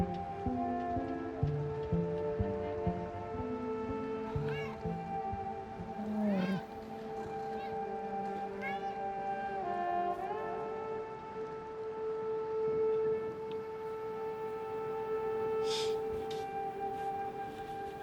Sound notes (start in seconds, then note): 6.0 meowing; 8.8 subtle music